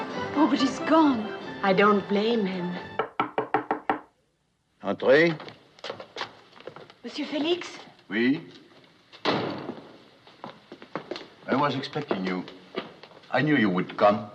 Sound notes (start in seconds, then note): 2.8 speaking French; 2.9 knock on door